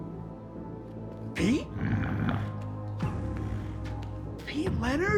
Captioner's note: Pete growls